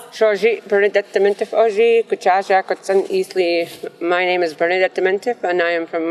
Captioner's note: non-english speech